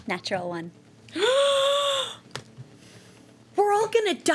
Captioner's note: gasping